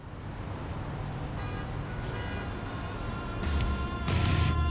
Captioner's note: cars honking; rock music